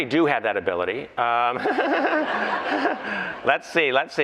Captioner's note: laughter